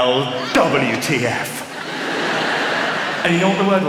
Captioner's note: laughter